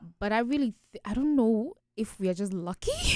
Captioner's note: none